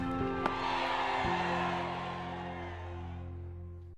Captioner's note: crowd cheering